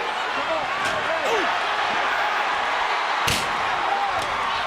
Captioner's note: crowd cheering